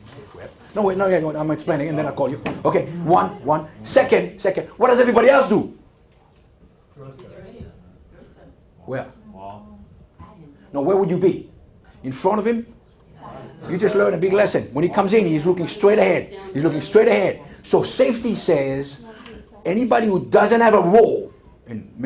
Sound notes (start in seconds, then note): 6.1 mumbling from students